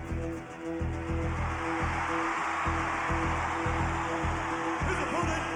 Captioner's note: upbeat music; crowd cheering